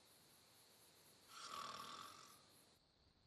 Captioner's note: snoring